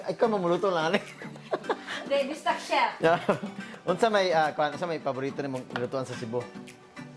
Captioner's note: giggles